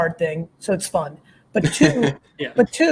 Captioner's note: laughs